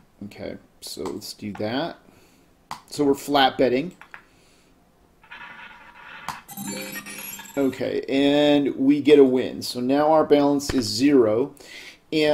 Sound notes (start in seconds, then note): 5.2 ball rolling; 6.4 successful chime